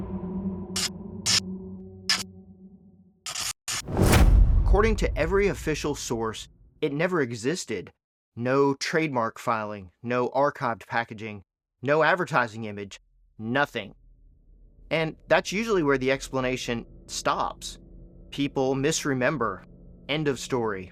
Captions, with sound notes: *Gunshot* According to every official source, it never existed. No trademark filing, no archived packaging, no advertising image, nothing. And that's usually where the explanation stops. People misremember. End of story.